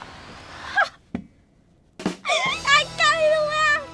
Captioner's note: laughs